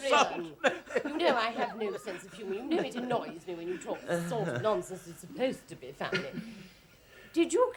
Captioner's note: Adrian keeps mumbling and laughing